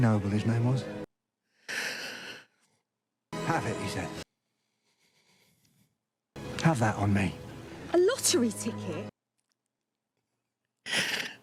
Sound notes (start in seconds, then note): 1.6 emotional inhale